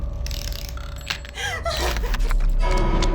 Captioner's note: suspenseful music; Rose gasping; ominous music